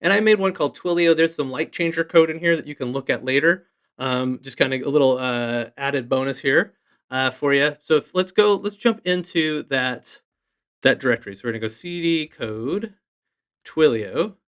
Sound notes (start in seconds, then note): none